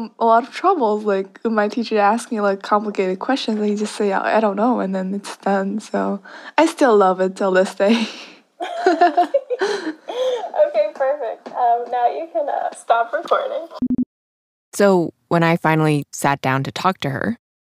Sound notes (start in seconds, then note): 8.6 both laugh